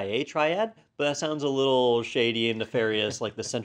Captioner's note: laugh